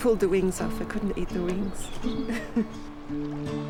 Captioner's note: chuckles